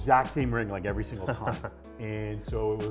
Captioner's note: laughs